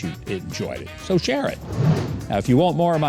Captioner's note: whooshing